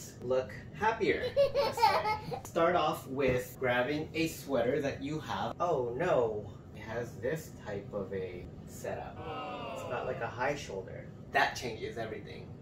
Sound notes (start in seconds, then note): 1.2 child laughing; 9.2 disappointed crowd